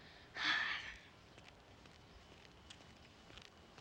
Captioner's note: Huck sighs